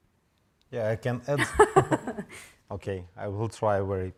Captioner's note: laughing